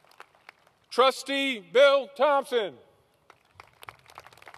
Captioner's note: applause